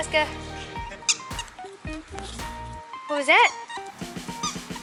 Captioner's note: toy squeaking